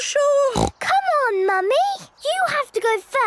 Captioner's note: snorts